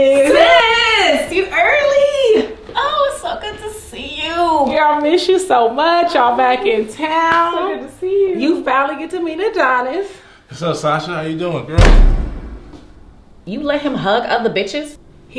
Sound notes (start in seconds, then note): 11.7 loud thud